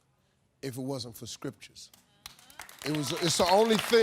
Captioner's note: audience applauding